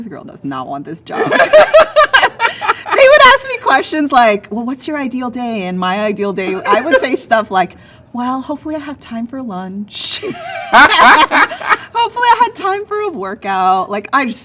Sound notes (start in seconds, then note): 1.2 laughing; 10.4 laughs